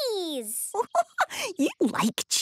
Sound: giggling

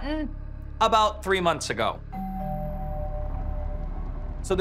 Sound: doorbell rings

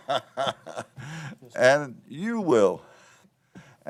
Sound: laughter

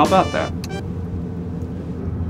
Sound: click

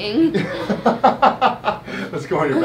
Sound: laughing

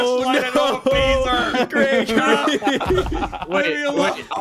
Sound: bunch of laughter

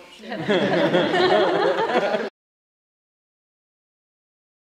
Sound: audience laughs

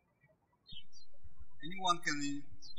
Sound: birds chirping

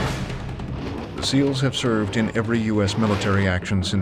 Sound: voiceover

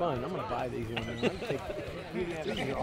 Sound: laughter

